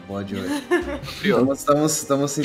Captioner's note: laughter